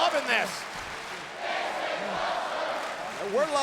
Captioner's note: audience chanting and applauding